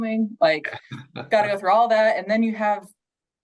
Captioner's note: chuckles